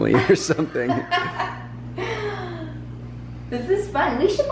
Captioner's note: laughs